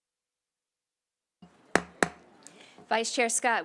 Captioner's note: silence; gavel hitting dais